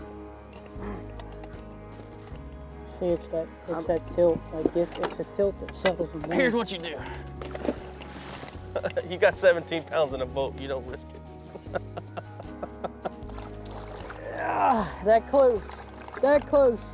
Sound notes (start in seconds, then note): 7.5 water splashing; 11.4 laughs